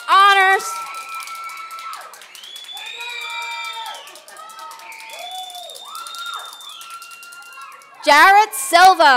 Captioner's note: applause and cheers